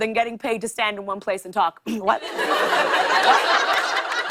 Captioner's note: laughter